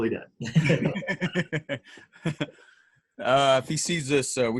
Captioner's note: laughing